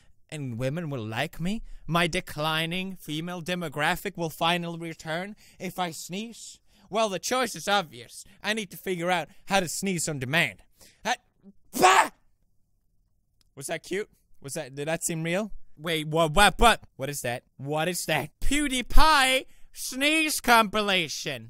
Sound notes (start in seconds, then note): 11.7 cutest fake sneeze in all of history